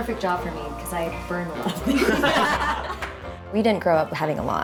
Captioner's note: all laugh